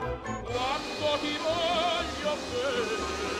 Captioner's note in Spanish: aspiradora